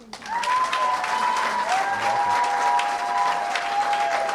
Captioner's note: cheering & applause